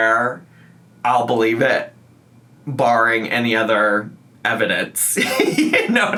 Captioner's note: laughs